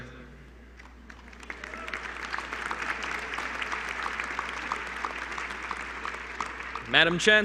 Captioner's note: applause